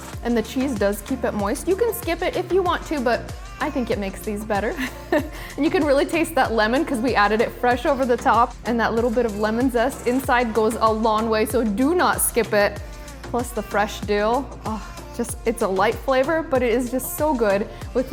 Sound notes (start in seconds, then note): 4.8 laughs